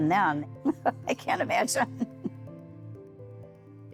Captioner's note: chuckling